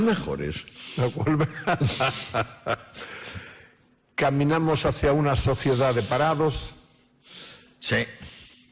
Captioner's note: laughs